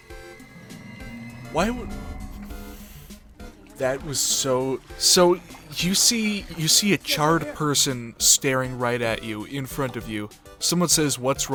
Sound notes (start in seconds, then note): 0.0 pissed exhale